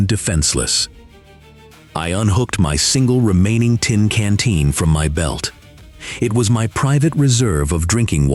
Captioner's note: breathe